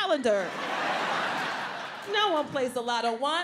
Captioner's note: audience laughs